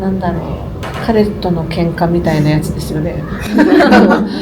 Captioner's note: laughs